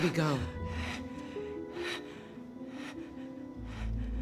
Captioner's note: breathing heavily